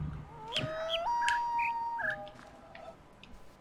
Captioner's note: coyote howls ˩˧˥˥ ˧; bird chirps five notes